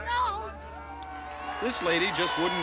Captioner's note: cheering